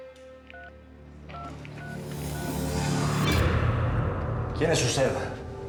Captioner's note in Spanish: sonido al marcar